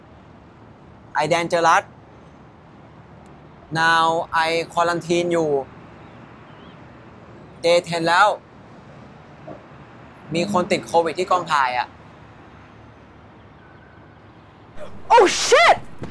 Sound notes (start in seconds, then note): 10.3 in Thai